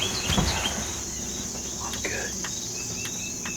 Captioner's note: whispering